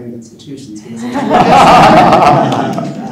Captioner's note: laughter